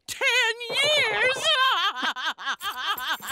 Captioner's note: laughing